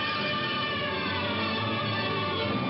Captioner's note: sirens wailing